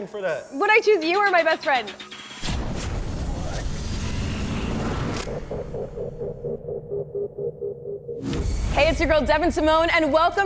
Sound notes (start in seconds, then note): 4.9 electronic echo